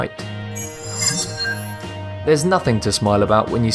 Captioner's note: sharp chiming